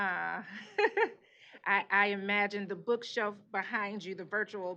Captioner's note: laughs